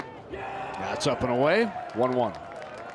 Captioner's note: crowd cheers